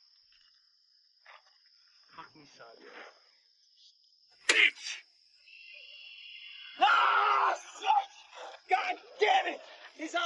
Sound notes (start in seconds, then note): 5.6 screaming